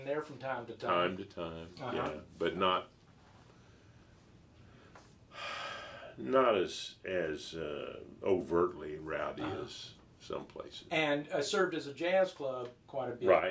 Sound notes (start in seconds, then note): 5.3 sighing